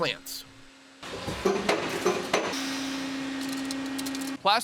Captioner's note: machine thudding and whirring